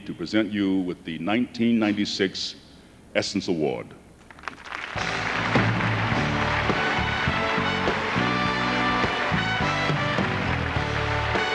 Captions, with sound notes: IT'S AN HONOR FOR ME TO PRESENT YOU WITH THE 1996 ESSENCE AWARD. ( applause )